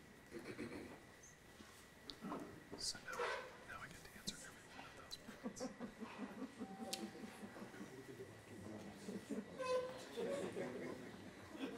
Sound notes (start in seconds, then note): 5.3 audience laughing